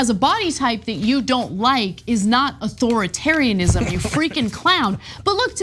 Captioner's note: laugh